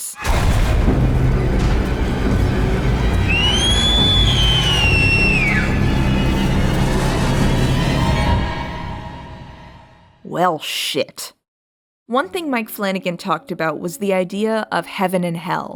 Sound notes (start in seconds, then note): 0.1 scary music; 3.4 Flora screams